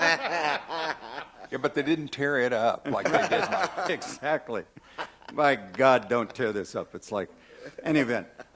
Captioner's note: laughter